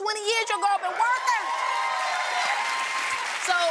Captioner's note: cheers and applause